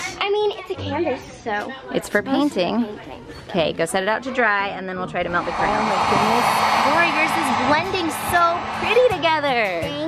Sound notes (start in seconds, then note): none